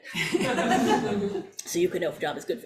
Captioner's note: audience laughs